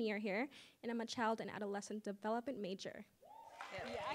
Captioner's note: applause